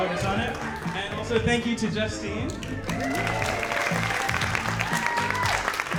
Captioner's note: audience applauding